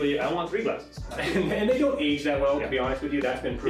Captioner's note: laughing